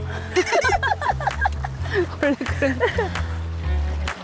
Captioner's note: hahahahaha